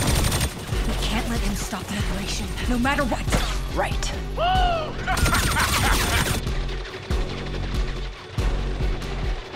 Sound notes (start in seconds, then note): 4.7 laughing; 6.3 tense music playing